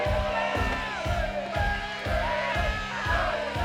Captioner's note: chanting